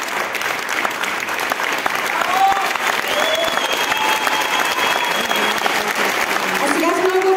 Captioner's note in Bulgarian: аплодисменти